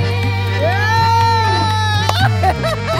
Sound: laughing

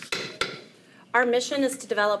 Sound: gavel pounds

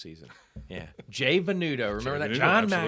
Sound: chuckles

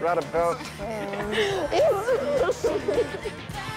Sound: laughing

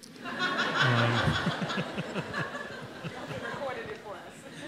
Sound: audience laughs

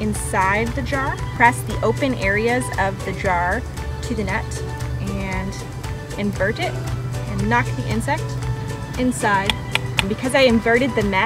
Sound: tapping

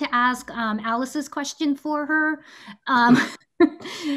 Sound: laughs

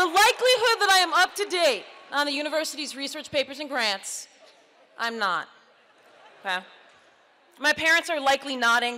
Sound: audience laughs

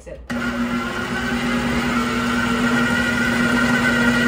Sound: blender whirring

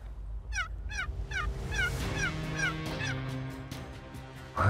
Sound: turkey call

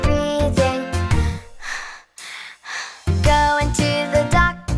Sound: breathing deeply

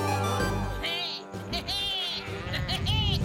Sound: bleating

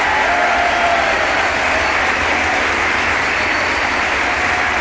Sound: audience applauding

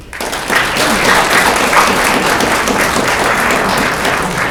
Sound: audience clapping

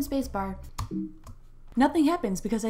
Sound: error Beep

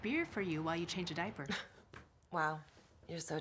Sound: chuckles

